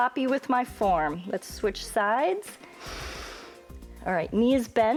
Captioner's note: inhales